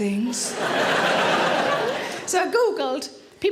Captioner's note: audience laughs